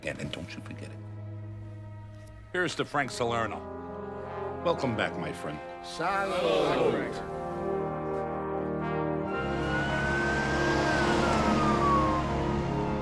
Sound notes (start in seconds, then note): 6.1 everyone speaking foreign language; 9.2 sirens wailing